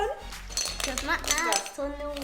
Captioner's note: clunking